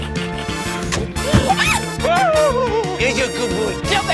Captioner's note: shrieks